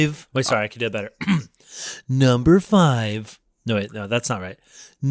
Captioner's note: clears throat